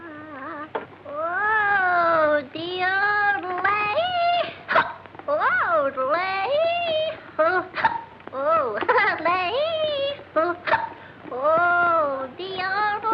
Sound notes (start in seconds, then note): 1.4 yodeling; 4.3 yodeling; 4.7 hiccup; 7.4 yodeling; 7.7 hiccup; 10.3 yodeling; 10.6 hiccup